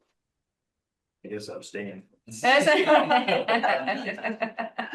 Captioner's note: laughs